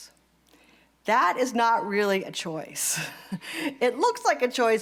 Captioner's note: laugh